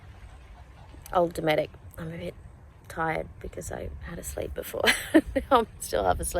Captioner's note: laughs